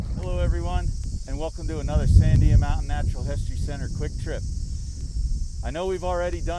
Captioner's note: wind blowing, fire roaring and crackling; cicadas buzzing, wind blowing